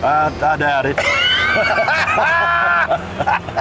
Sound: laughing

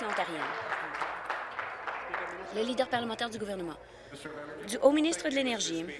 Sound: applause

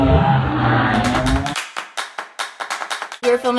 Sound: clapping and theme music

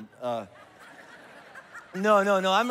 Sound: congregation laughs

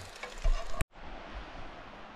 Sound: sizzling

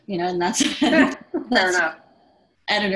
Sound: laughs

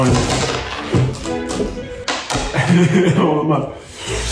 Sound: beans dropping

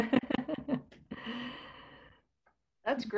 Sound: laughing

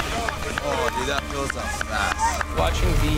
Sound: hands clapping

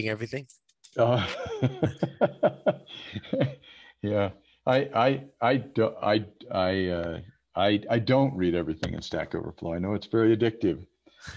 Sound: laughs

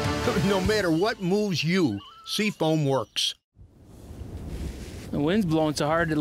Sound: voiceover

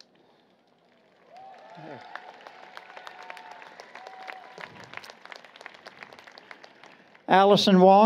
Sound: applause, Cheering

